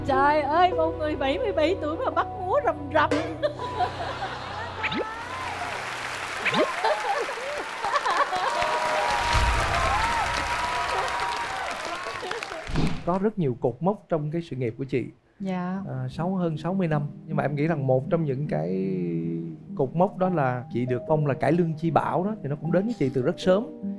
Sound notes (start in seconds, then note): 9.7 such big applause